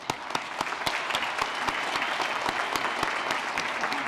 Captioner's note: applause